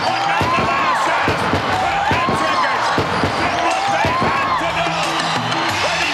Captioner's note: fireworks popping